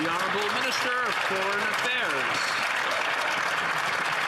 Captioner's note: some Applause